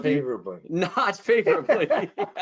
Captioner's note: laughing